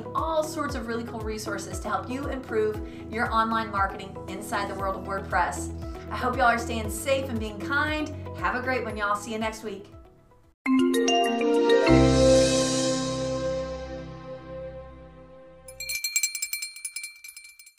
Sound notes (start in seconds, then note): 10.6 bright logo music; 15.6 bell ringing